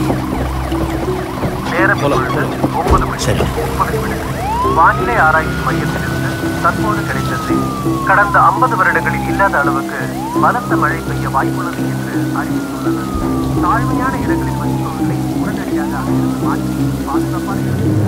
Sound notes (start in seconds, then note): 1.6 radio news continues